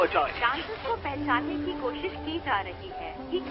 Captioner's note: woman reporting in spanish